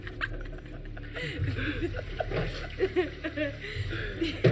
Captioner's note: all laughing